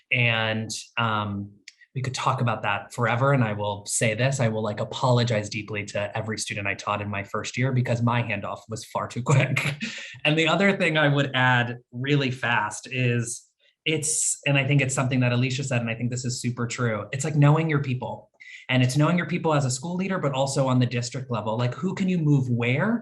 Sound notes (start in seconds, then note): 9.4 laugh